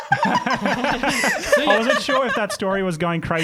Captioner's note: laughter